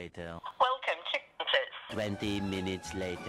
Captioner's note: automated voice